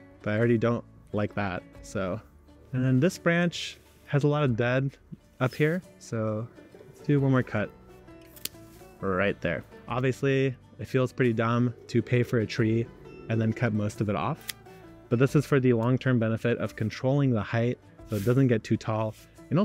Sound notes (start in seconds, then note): 8.2 branch cracks; 8.3 scissor clicks; 14.4 branch cracks; 14.4 scissor clicks